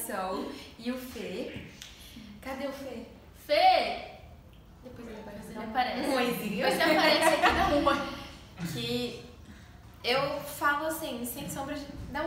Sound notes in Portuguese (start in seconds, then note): 6.7 risos